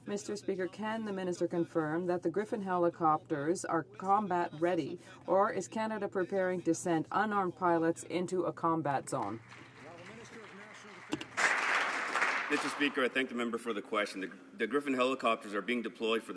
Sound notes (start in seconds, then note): 12.7 some Applause